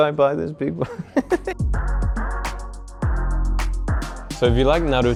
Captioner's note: laughs